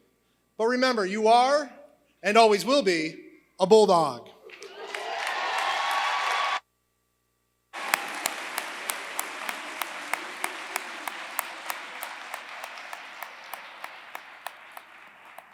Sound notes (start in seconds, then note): 4.4 applause